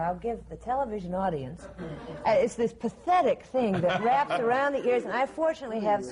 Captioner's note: laughter